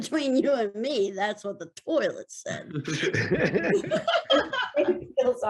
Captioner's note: actors laughing